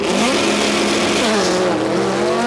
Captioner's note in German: Motorengeräusche